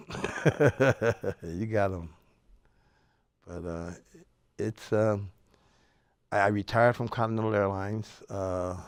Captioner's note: laughs